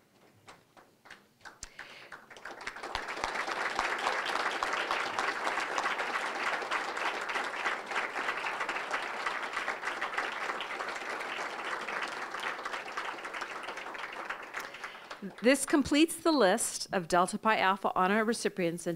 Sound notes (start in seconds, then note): 0.5 applause